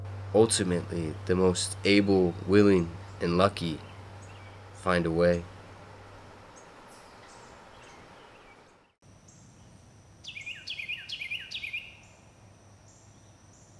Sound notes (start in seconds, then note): 6.4 chirping; 10.2 wren singing